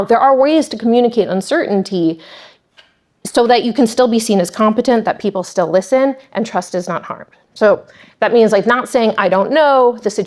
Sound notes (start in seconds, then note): none